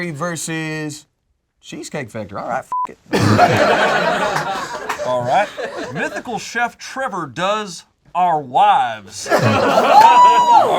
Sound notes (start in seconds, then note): 2.7 beep; 3.1 group laughs